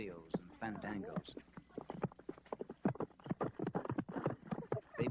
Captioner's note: horse galloping